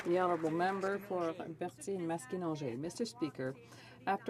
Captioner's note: some Applause